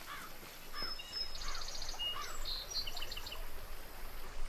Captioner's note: birds chirping